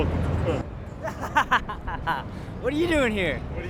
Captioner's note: person laughs